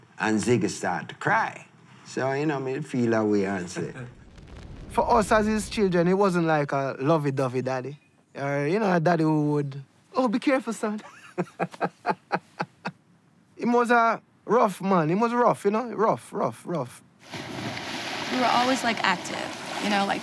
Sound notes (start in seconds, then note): 11.1 laughs; 17.2 water splashing